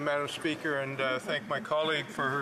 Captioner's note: speaking French